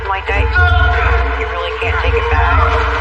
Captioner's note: yelng